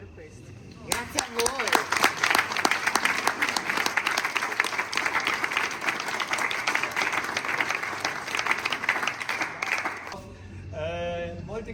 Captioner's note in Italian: Applauso